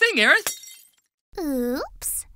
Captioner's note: shattering noise